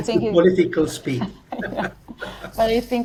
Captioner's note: both laughing